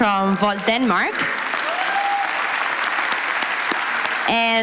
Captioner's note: applause